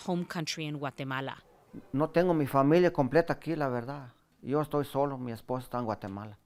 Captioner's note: speaking in foreign language